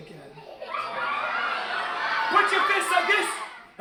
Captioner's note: audience murmuring